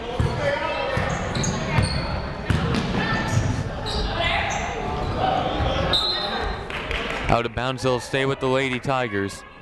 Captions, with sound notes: (whistle blows) Out of bounds, it'll stay with the Lady Tigers.